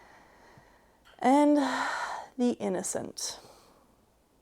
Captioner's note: deep sigh